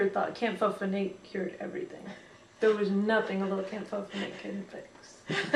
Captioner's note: laughs